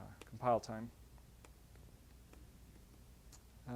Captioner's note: pause